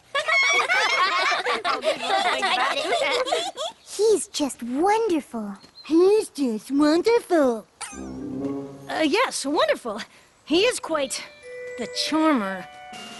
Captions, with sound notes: [ Laughter ] He's just wonderful. [ Mockingly ] "he's just wonderful!" [ Poink! ] Uh, yes, wonderful. He is quite... the charmer.